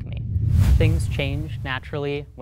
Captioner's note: whooshing sound